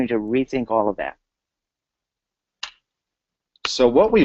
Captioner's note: pause